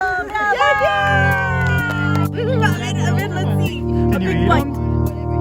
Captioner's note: applause